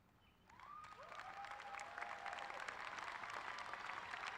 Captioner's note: applause